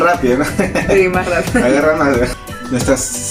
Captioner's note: laughs